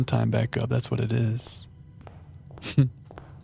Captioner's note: laughs